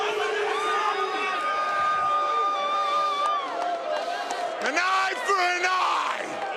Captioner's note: cheers & boos